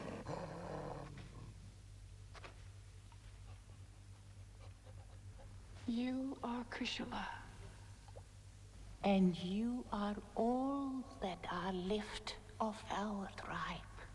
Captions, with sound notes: (Dogs panting) - You are chrysula. - And you are all that are left of our tribe.